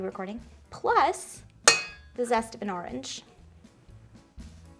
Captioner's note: bangs spoon